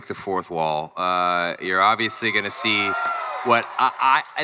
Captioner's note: crowd cheering